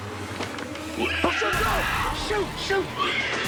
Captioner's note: screeching